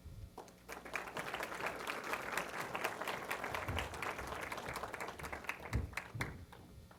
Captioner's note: applause